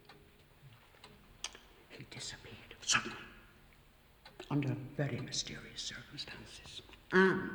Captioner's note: whispering